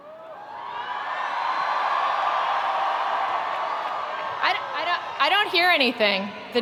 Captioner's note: attendees cheering; attendees applauding